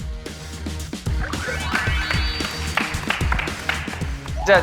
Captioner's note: applause for hard work